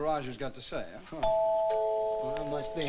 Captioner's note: doorbell ringing